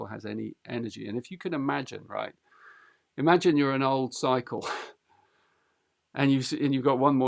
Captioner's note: chuckles